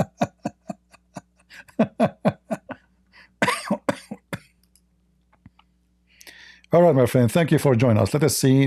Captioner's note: Ketawa